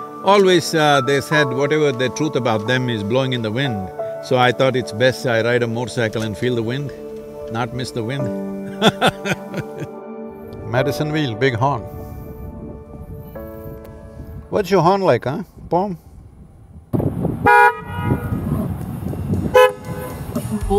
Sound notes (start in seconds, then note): 8.7 laughs; 17.2 horn sounds; 17.4 horn sound